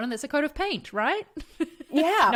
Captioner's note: laughs